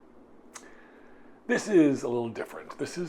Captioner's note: pause